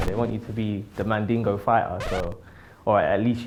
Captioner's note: vinyl scratch